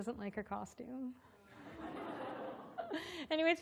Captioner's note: laughter